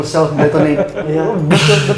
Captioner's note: laughs